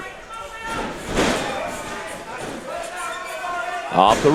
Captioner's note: crowd booing